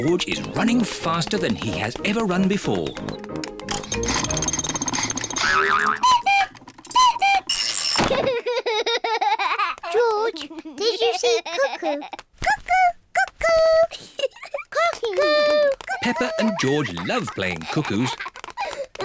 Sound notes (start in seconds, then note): 5.0 panting; 6.1 clock cuckoos; 8.1 laughs; 13.8 giggles; 18.8 laughs